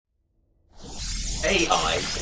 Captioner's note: electronic sounds